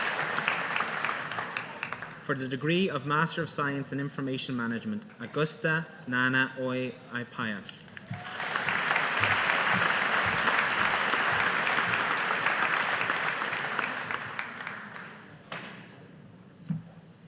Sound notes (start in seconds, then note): 8.0 audience applauding